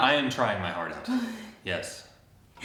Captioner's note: chuckles